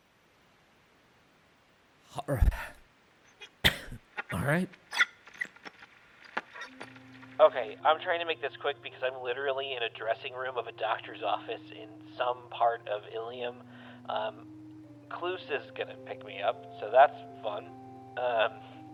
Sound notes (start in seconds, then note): 5.0 static